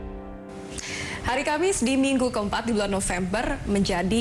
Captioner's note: non-english speech